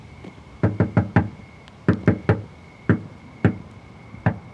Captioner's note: visitor knocking